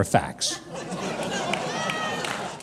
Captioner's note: audience laughing